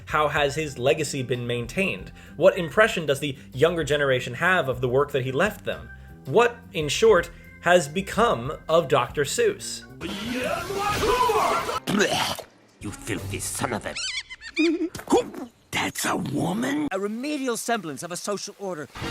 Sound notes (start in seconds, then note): 10.0 anime screaming; 11.4 vomit sound effect; 13.9 squeaking